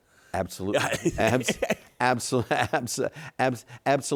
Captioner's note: laughs